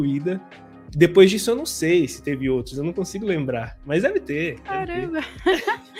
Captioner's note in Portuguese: risos